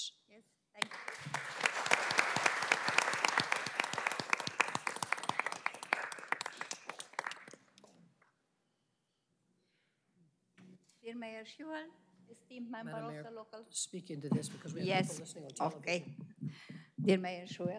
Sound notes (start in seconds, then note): 4.8 applause